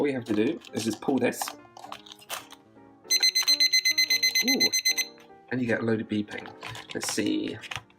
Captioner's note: clock beeps repeatedly